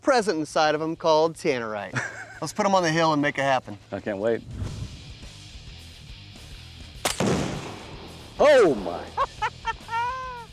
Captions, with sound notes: inside of 'em, called tannerite. Let's put 'em on the hill and make it happen. - I can't wait. (fires) - Oh, my! - (laughs)